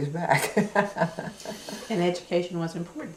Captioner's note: laughter